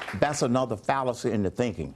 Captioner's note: applause